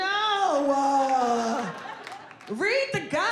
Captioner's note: audience laughing